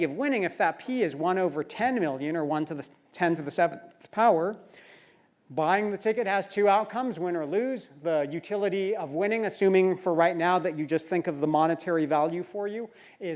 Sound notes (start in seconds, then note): none